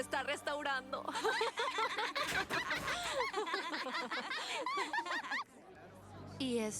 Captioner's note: giggles